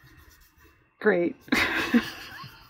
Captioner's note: laughs